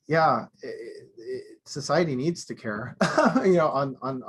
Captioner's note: laughing